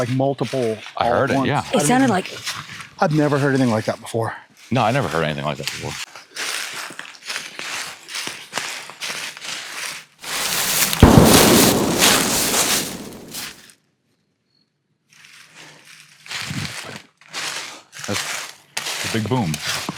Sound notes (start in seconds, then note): 6.8 leaves crunching; 10.2 gun bangs